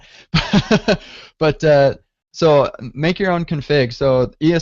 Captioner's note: laughs